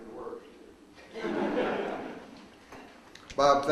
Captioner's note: audience laughs